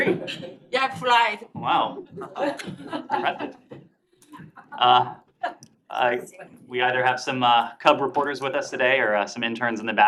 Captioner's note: laughter